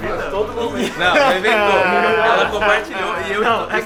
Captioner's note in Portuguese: risos